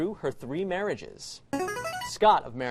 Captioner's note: buzzer